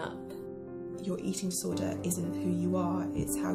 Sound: voiceover

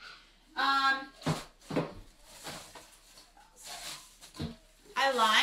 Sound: plastic crinkling

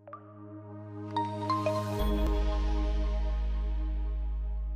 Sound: logo chiming

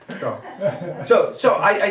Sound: audience laughing

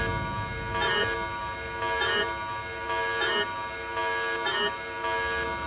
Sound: alarm

